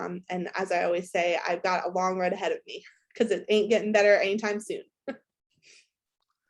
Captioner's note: laughs